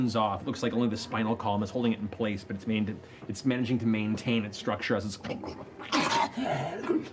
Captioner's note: snarls